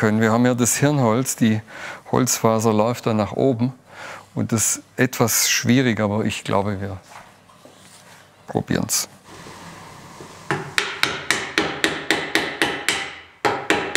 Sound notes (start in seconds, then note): 10.5 knocking noises